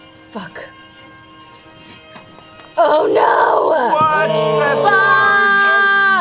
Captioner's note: yelling